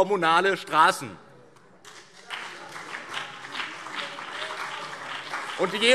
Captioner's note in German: Beifall BÜNDNIS 90/DIE GRÜNEN und vereinzelt CDU - Zuruf SPD